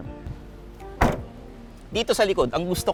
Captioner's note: door thuds